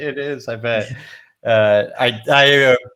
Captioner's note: laughs